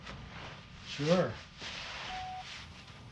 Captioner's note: phone beeps